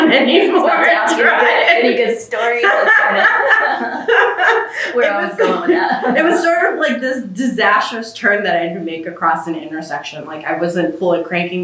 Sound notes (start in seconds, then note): 2.4 laughter